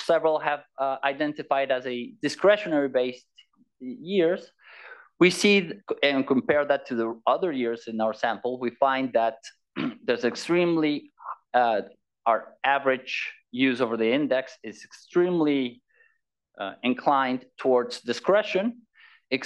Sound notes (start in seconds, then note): 9.7 cough